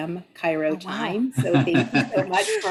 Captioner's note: laughs